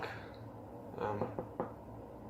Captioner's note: knocks